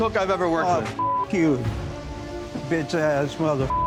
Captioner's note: beep